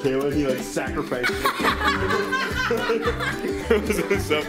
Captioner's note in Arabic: يضحك